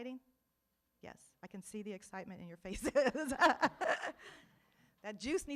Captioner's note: laughs